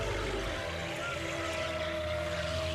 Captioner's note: growls